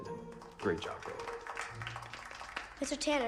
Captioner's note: class applauding